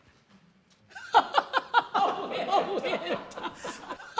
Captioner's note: laughter